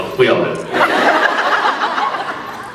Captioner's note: laughs